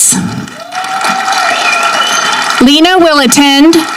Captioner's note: audience clapping